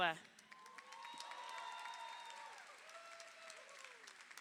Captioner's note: crowd cheering